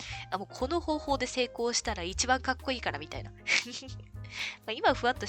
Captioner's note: laughs